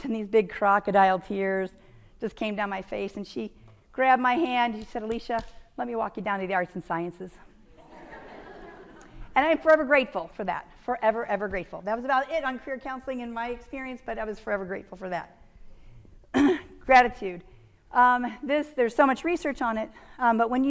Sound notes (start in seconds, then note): 7.8 audience laughing